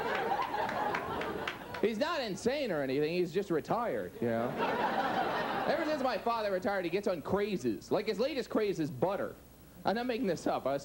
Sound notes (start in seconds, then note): 4.4 audience laughs